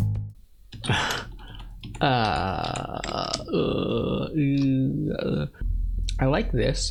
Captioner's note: groaning